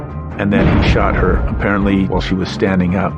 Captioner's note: gunfire blasting